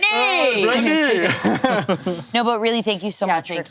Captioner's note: all laughing